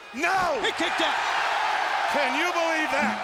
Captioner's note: audience cheers